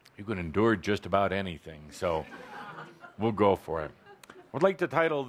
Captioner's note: laughter